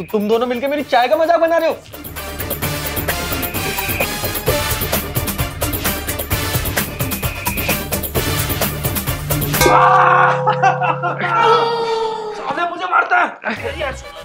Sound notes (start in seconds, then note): 1.9 quarreling; 9.6 shouting; 13.3 quarreling